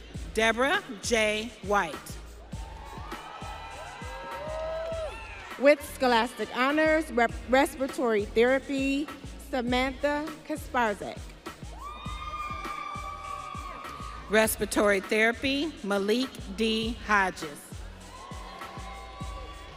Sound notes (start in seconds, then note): 4.7 audience cheering; 13.4 audience cheering